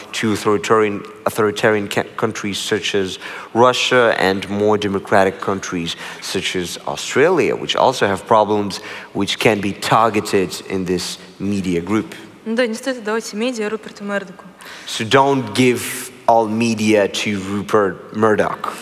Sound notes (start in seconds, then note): 12.7 foreign Language